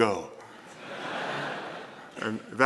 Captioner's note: laughter